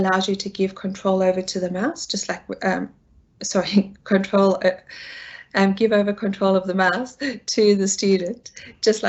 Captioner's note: laughs